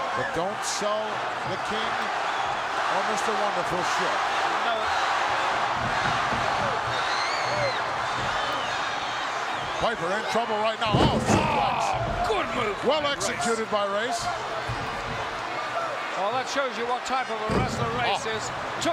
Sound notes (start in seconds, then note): 5.2 audience shouting